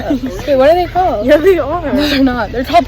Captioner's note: laughter